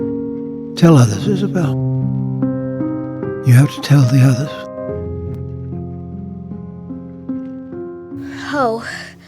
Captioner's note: Dream sequence ends - Isabel wakes up with a little yell in the nighttime